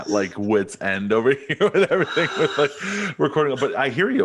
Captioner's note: laughing; gasps